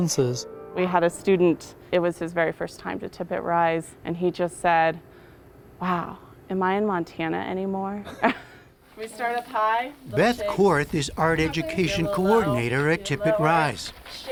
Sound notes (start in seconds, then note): 8.0 laughter